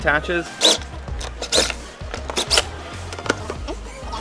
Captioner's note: drill whizzing